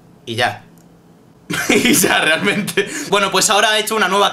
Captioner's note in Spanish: Risas